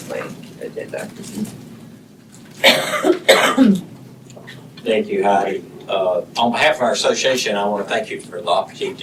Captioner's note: cough